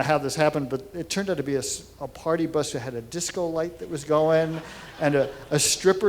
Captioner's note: laughter